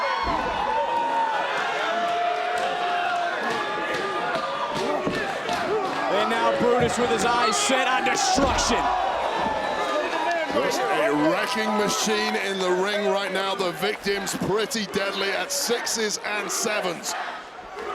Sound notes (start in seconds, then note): 0.2 audience chattering; 8.6 audience cheering